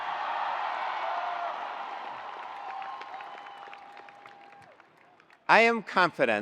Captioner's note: attendees cheering; attendees applauding